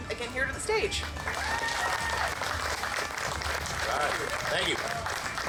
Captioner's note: audience clapping